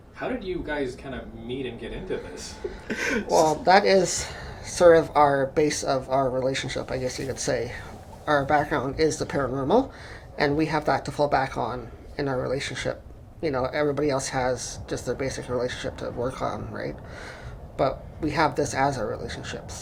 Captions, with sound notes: - How did you guys kind of meet and get into this? [Creepy Atmospheric Sounds] - Well that is sort of our base of our relationship, I guess you could say. Our background is the paranormal and we have that to fall back on in our relationship. You know, everybody else has just their basic relationship to work on, right? But we have this as our relationship.